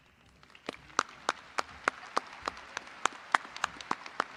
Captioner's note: crowd applauding